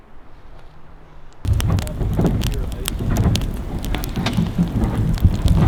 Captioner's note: fire crackling